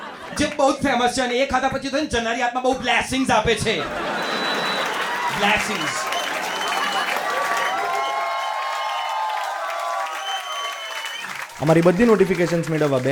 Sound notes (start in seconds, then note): 6.7 progressive crowd applauds a death joke